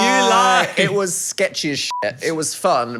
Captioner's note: beep